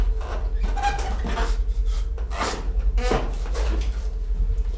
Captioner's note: chair squeaking